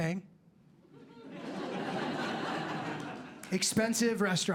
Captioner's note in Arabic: ضحك